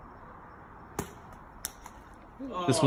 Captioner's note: thud